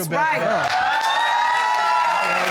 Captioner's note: audience hoots